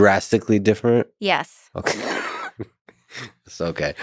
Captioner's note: laughs